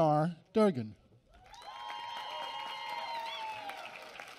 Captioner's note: applause